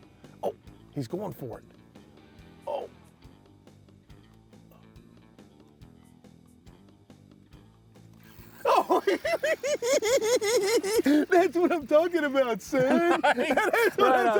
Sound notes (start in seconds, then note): 8.6 laughing